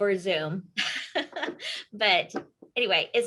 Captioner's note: laughs